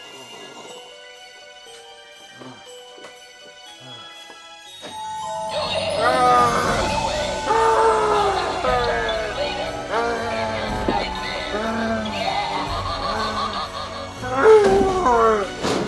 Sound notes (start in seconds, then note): 5.6 Longbutt screams; 5.6 mechanical monster roars; 11.4 mechanical monster cackles; 15.6 Longbutt groans